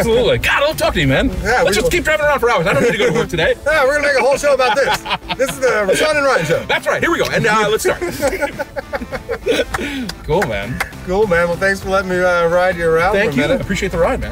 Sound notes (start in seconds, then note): 4.5 laughs; 8.6 laughing